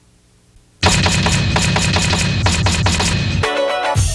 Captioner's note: typewriter slamming; funky music